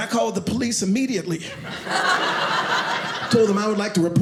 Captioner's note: audience laughing